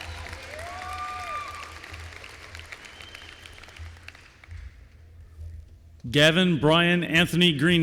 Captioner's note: applause